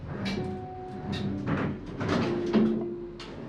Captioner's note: drawer opening